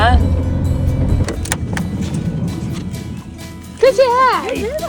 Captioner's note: door clattering